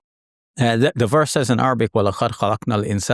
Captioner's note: speaks Arabic